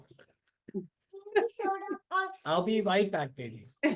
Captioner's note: kid faintly speaking